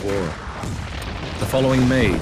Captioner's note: gun firing